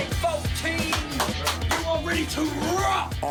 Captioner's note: hands clapping